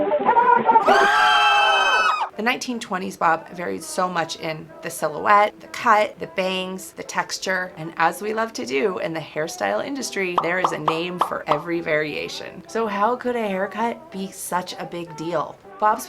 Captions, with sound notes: [Screams] The 1920s Bob Hairstyle varied so much in the cut, the texture, the bangs, the silhouette. And as we love to do in the hairstyle industry, there is a name for every variation. So how could a haircut be such a big deal?